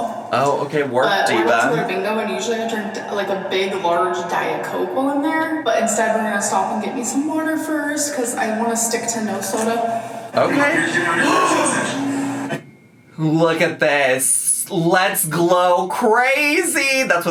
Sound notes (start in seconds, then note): 11.2 gasps